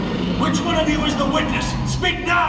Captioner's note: engine rumbles